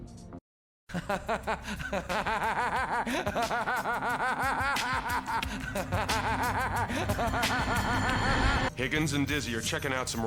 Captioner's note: laughter